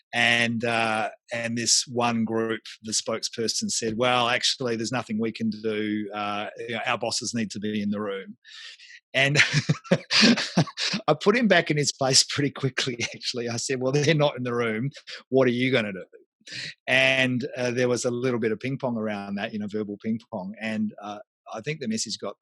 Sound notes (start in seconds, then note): 9.3 laughs